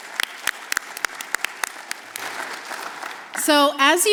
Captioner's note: applause